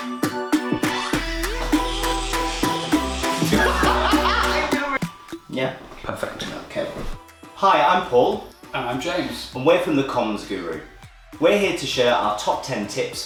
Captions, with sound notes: (laughter) Yeah, perfect, ok Hi, I'm Paul. I'm James. and we’re from The Comms Guru. We're here to share our top ten tips